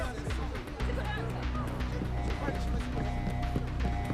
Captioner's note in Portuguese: alarme soando